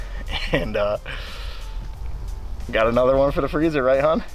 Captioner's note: laughs